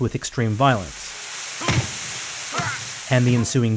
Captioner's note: punching